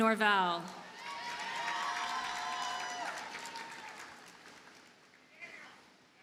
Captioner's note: audience cheers and applauds